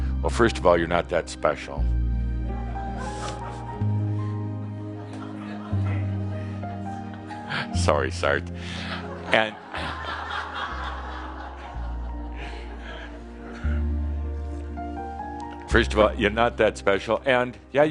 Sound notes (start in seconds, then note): 3.0 some chuckles; 14.4 laughter